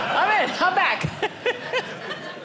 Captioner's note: audience laughing